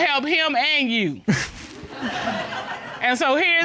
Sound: all laughing

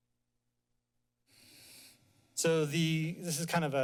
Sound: inhales

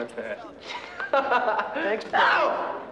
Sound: laughs

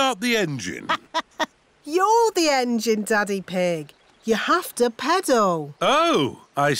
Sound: laughs

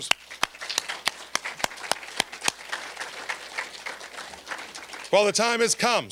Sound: applause

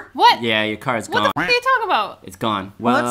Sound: duck quacking

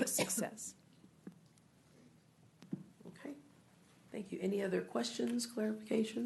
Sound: coughing

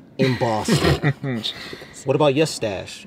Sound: laughter

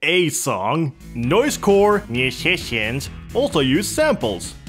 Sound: said mockingly

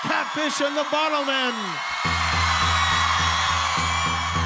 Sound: audience cheers

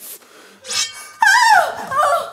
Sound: sword slashing

